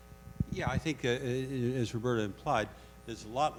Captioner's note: voiceover